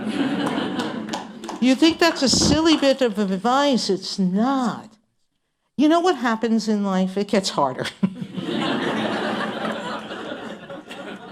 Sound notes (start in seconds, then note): 3.9 laughter